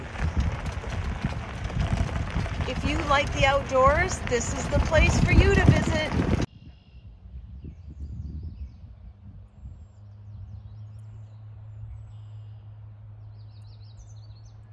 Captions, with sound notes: (gravel crunches) (air whooshes) If you like the outdoors, this is the place for you to visit. (birds chirp)